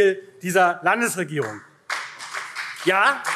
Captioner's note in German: Beifall SPD